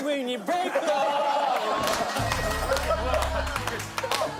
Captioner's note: laughing